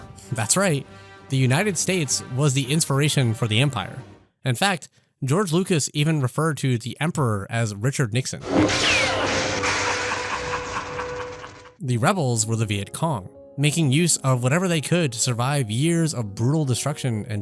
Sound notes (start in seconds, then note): 8.5 lightsabers clashing; 9.7 Emperor laughing